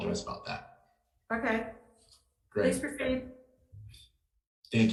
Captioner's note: speaks faintly